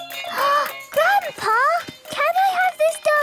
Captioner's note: upbeat music; gasps